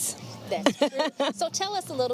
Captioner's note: laughing